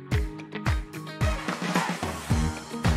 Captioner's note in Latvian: Aplausi